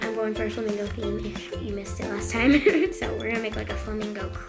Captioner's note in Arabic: يضحك